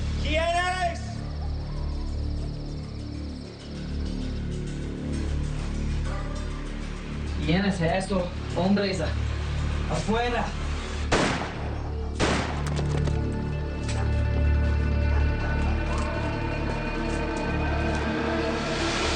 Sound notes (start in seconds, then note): 3.2 soft dramatic music; 7.6 Billy speaking in Spanish; 11.0 gunshots; 15.0 dramatic music building